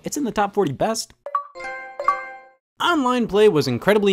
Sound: Xbox and PlayStation sounds

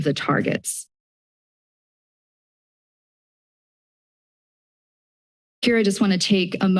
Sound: silence

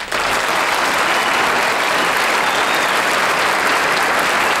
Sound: audience clapping

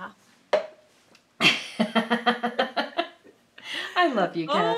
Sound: laughing

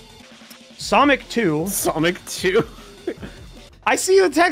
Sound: laughs

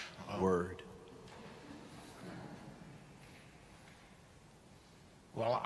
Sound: audience chuckling

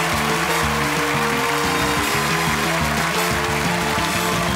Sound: cheers and applause; upbeat music playing

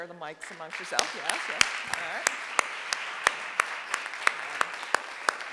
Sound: audience applauding

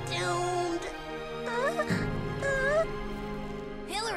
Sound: sobs

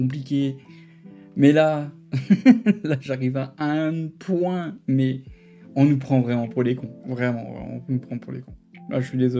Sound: laugh

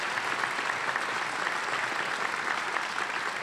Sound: applause

